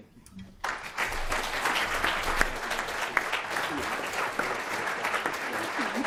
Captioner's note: applause